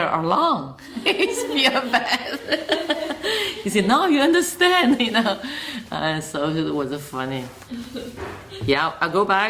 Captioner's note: laughs